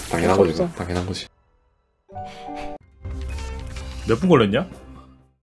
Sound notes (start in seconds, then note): 2.2 inhales